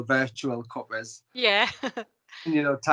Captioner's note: laughs